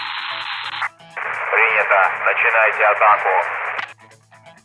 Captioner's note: in Russian